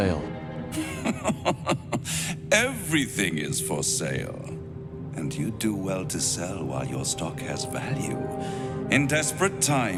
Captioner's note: laughing